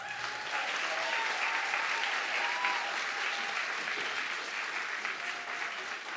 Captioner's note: audience clapping and cheering